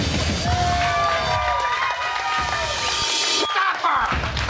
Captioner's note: applause